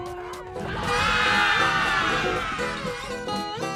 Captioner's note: screaming